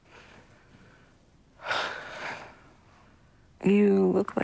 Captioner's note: sighs